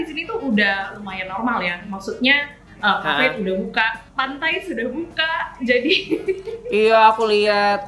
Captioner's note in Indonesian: ketawa